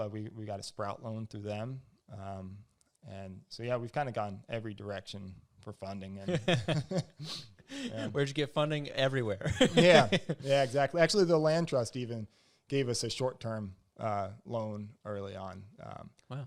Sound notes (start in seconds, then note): 6.2 both laugh; 7.7 laughs